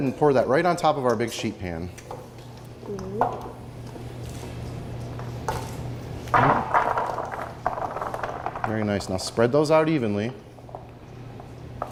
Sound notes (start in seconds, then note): 6.3 carrots hitting pan